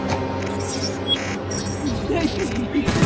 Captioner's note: robotic beeps